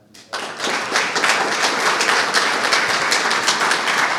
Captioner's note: audience clapping